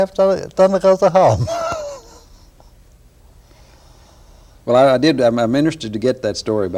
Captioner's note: laughter